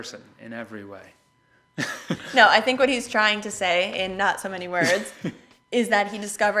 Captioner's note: laughs